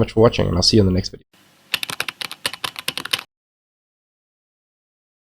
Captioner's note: typing